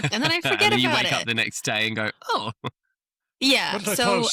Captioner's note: laughs; laughs